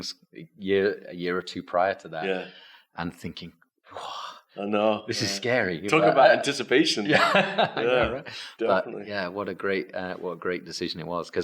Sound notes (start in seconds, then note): 7.1 laughs